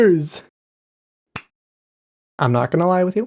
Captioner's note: claps hands once